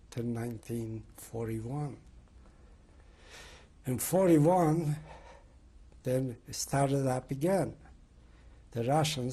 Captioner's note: pauses for 3 seconds